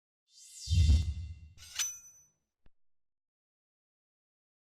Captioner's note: logo swishing